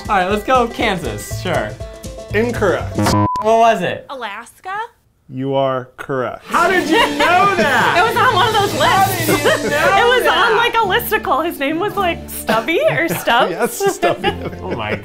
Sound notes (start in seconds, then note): 3.0 beep; 12.3 laughing; 12.3 laughs